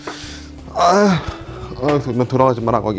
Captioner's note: groans